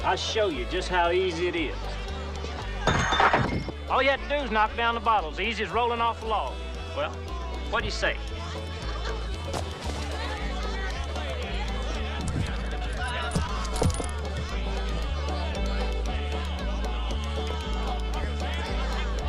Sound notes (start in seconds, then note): 2.8 bottles clanging; 8.9 crowd bustling; 13.0 metal clinking